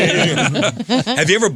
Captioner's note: laughing